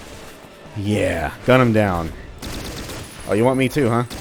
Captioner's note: turrets continue going BRRRRR; M16 firing